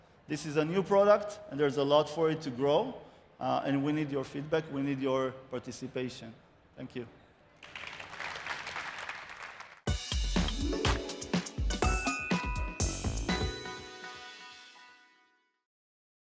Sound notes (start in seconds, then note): 7.6 applause